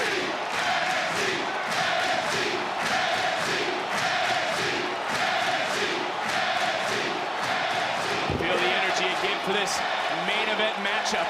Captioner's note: crowd cheering